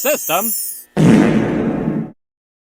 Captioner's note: fartwithreverb.mp3